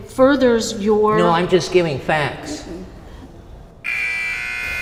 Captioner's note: alarm